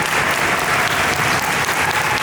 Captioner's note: applause